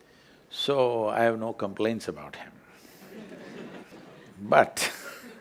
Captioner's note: Few Laugh